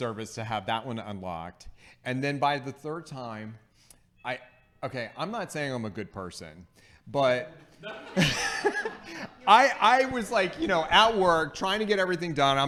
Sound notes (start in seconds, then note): 7.5 laughing